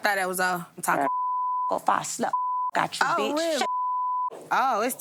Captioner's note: beep